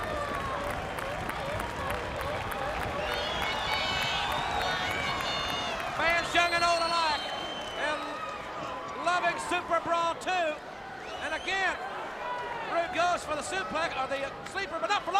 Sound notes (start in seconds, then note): 0.3 crowd cheering; 3.4 crowd chatter